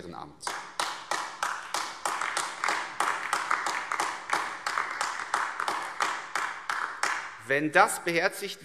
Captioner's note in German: Beifall AfD